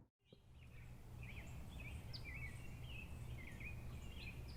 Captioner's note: birds chirping